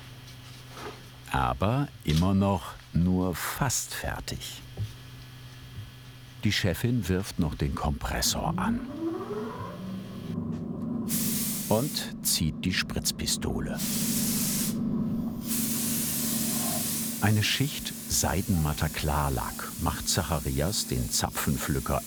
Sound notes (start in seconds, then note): 8.9 rising whir; 10.3 continuous whir, a hissing sound joins in; 15.4 hissing bursts of spray